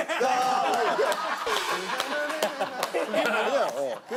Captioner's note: laughing